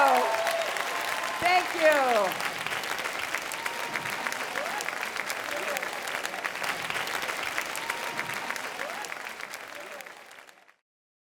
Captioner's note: applause